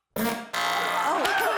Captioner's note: farting